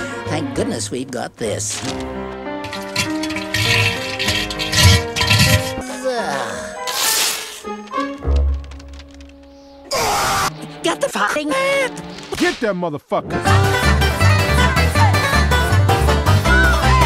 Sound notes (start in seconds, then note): 3.8 toilet Sounds; 5.8 Rabbit Sigh of relief; 6.8 ripping Sounds; 9.9 rabbit Scream